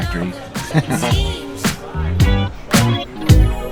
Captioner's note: chuckles